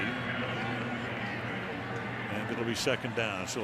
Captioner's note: pa announcement